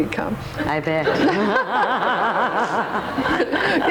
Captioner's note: laughs